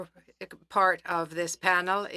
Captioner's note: speaking French